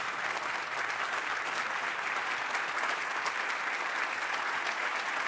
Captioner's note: applause